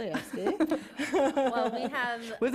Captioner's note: laughter